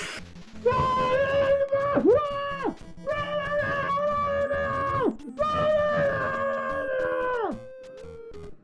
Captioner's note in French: Hurlements étouffés dans le casque